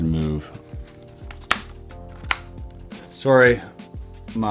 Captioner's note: buttons clicking